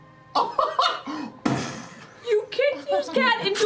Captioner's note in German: Explosion